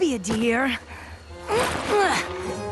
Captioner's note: grunt